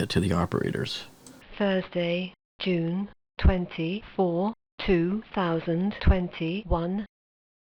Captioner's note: computer Voice